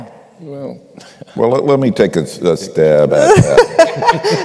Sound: laughter

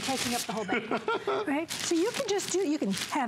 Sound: laughter

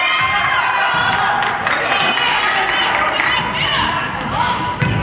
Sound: crowd cheers

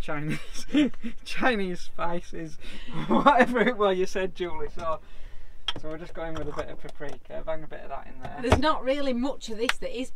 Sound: laughing

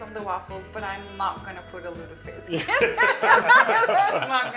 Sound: laughing

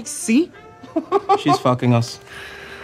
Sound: laughing

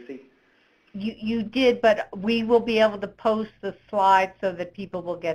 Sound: voiceover

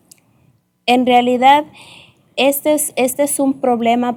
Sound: speaking spanish

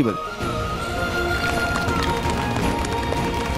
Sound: clapping

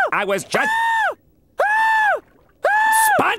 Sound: screaming

